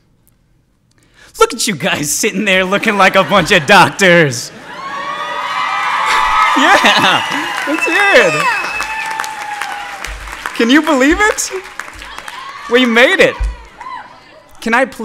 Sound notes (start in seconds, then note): 4.5 audience cheers